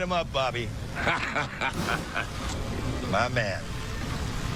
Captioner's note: laughs